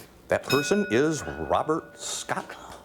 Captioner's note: ding